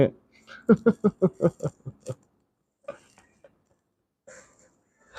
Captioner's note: laughs